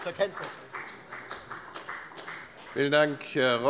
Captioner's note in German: Beifall bei der FDP